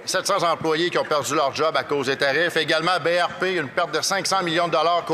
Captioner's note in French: voix de l'interprète